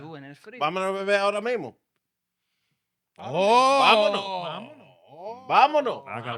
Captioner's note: speaking In Foreign Language